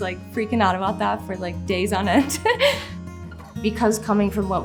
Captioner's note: chuckles